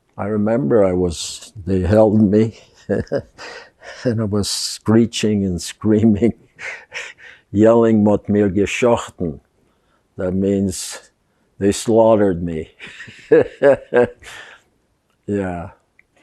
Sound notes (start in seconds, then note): 6.2 laughing; 8.6 yiddish; 12.8 laughing